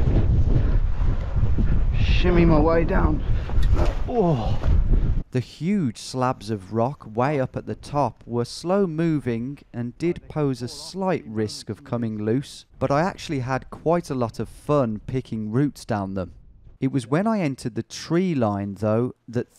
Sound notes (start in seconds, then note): 3.9 grunts; 5.1 voiceover